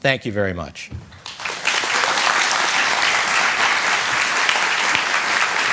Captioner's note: audience applauds